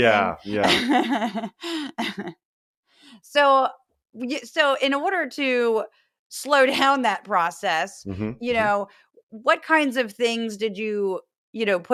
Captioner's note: laugh